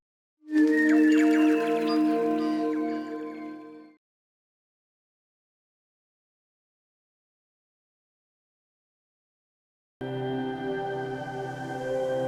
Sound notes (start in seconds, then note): 0.8 birdsong; 10.0 ethereal music